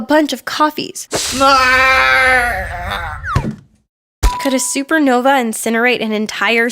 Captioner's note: splash